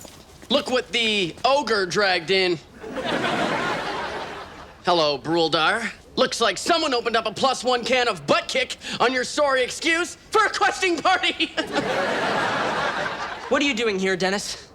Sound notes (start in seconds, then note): 2.8 audience laughs; 11.1 laughs